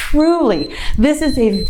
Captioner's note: timer beeps